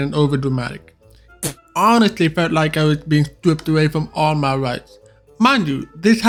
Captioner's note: spit